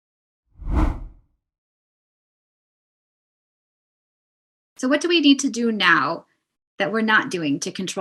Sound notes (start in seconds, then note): 0.6 air whooshing